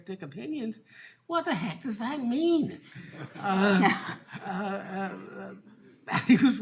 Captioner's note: all laughing